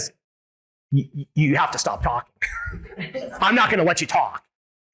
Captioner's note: laughs